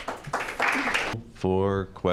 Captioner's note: applause